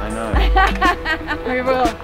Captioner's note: laughter